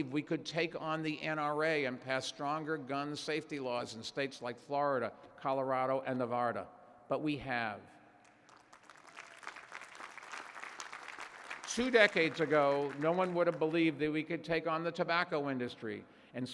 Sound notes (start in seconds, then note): 8.2 applause